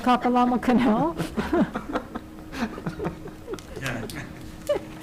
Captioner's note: members chuckling